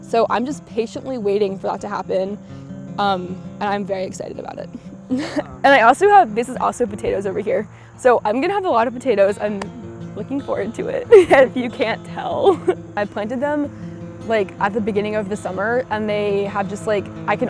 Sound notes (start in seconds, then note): 11.2 laughs